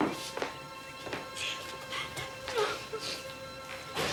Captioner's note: Lydia sobbing; gentle orchestral music